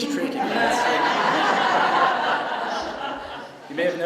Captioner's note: laughter